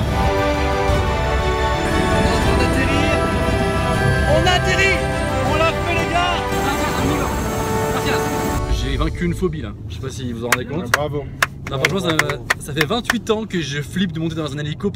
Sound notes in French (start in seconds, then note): 11.4 applaudit